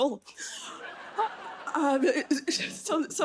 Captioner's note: laughter